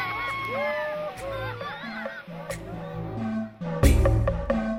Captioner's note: children scream